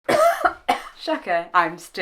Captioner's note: cough